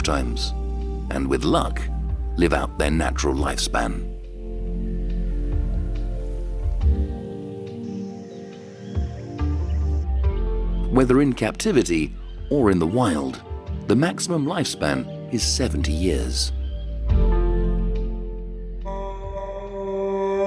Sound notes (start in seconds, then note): 4.1 soft music; 7.3 wildlife chirping; 16.6 dramatic music